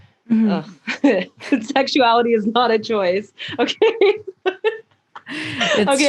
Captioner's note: laughs; laughs